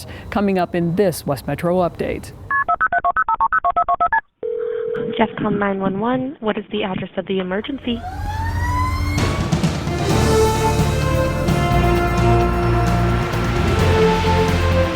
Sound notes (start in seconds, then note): 2.6 phone dialing; 4.4 phone ringing; 7.7 siren rings; 9.7 upbeat music